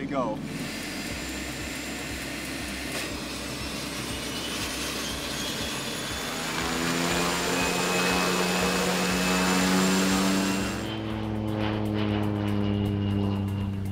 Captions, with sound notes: >>It's ready to go. [Airplane revving up, taking off]